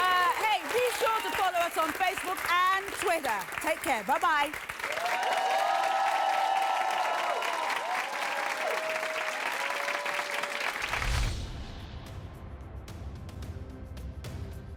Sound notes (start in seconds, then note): 4.7 audience applauds; 10.9 dramatic music